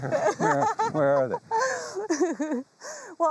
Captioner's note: chuckles